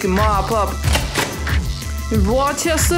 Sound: racking shotgun

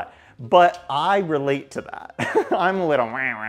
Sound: laughing

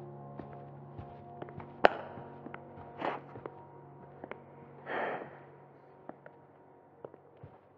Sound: distant footsteps

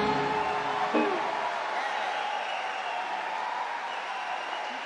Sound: audience cheer and clap

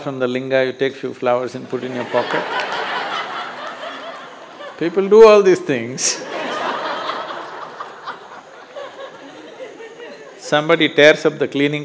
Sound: laughter; laughs

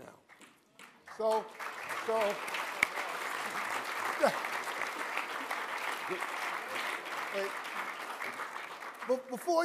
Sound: applause

